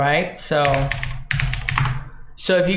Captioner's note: clicking keyboard